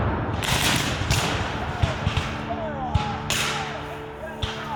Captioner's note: guns fire